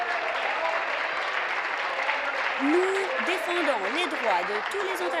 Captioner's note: applause